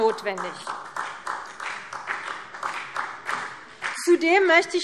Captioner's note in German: Beifall CDU, BÜNDNIS 90/DIE GRÜNEN und vereinzelt SPD